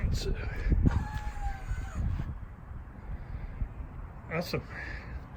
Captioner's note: motor whirring